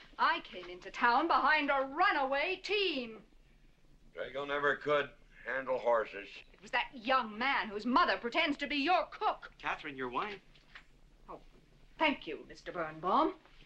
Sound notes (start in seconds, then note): none